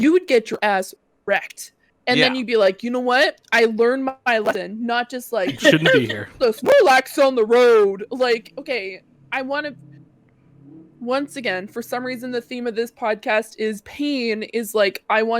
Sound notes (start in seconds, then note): 6.3 mocking